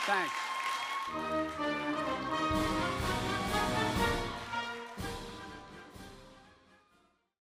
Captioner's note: applause